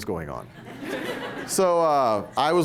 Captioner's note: laughter